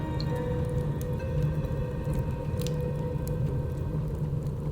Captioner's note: flames crackling